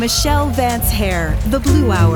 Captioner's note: applause